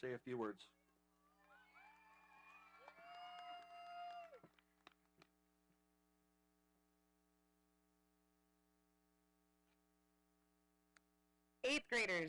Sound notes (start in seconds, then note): 2.9 audience cheering